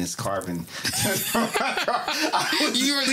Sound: laughter

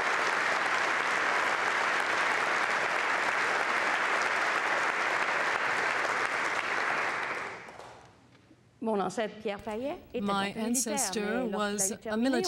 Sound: applause

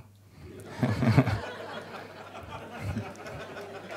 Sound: laughing

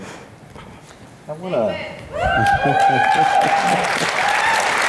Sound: cheering

